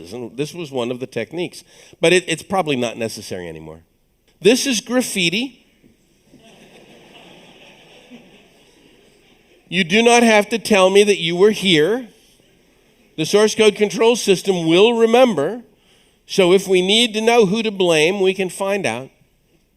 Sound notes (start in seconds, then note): 6.2 audience chuckles